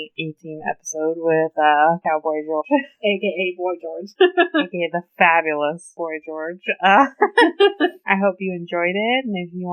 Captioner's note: laughs